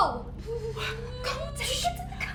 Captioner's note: Belle crying